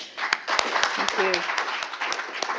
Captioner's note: audience applauds